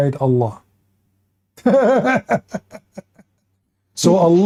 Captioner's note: Ketawa